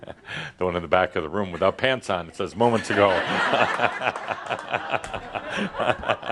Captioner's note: laughter